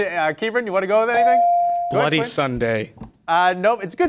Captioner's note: bell rings